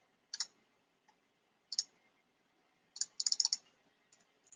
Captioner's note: mouse clicking